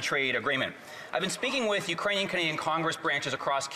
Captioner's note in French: voix de l'interprète